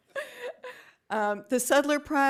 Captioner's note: laughing